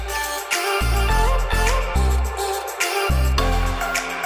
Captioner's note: ringtone chiming